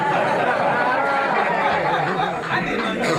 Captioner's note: laughter